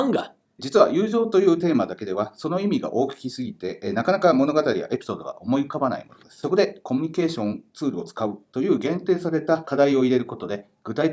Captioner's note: speaking Japanese